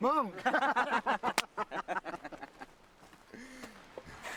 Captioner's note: men laugh